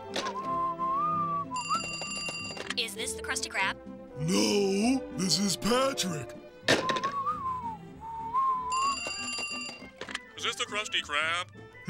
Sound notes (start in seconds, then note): 0.2 whistling; 1.6 phone rings; 6.7 whistling; 8.7 phone rings